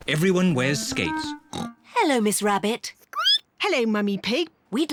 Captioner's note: snorts; squeaks